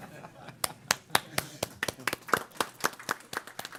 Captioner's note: applause